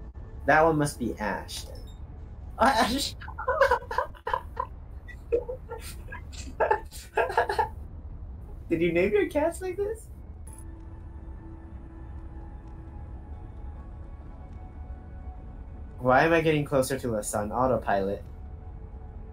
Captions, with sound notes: That one must be Ash then *surprised* Ash! Did you name your cats like this? Why am I getting closer to the sun? Autopilot.